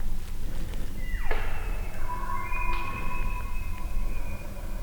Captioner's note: elk bugling